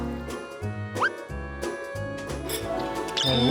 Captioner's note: chomp